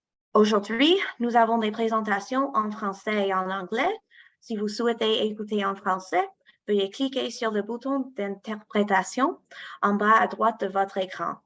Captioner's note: speaking french